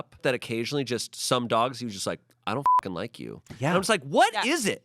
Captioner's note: beep